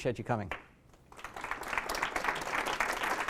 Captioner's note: applause